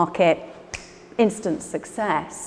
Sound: Ruth snaps her fingers

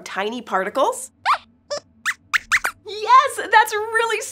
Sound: squeaks squeaks

